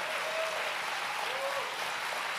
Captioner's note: applause